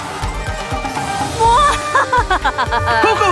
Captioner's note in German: kicher